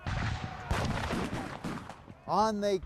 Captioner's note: guns fire